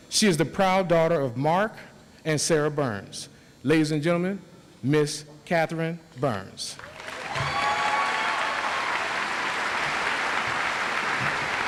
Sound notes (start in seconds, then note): 6.8 audience applauds